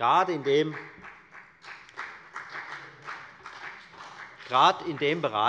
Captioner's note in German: Beifall bei der FDP und bei Abgeordneten der SPD